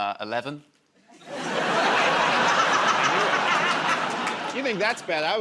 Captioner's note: laughter